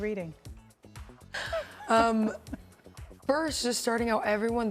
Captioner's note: laughing